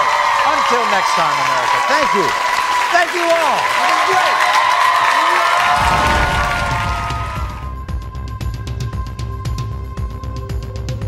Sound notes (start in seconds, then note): 4.5 audience applauding; 4.5 cheering; 7.4 upbeat music